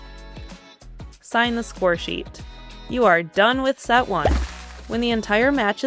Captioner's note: confetti burst